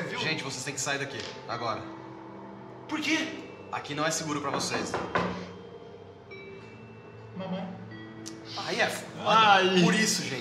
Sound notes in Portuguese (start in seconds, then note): 4.5 batida na porta; 7.5 Voz infantil abafada